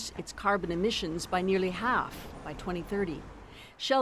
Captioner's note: speaking alternate language